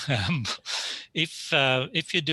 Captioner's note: laughs